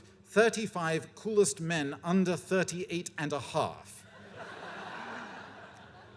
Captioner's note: laughter